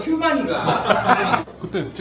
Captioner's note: laughs